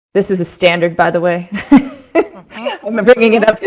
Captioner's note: chuckling